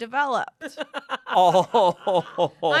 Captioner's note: laughs